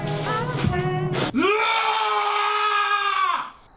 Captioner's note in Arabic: صراخ